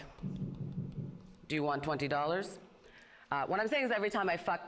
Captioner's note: knocks on microphone